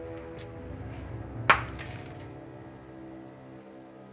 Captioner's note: crash